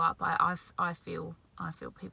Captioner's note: none